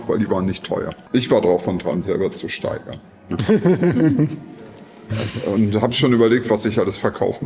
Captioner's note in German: gelächter